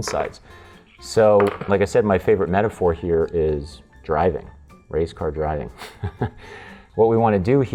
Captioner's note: chuckles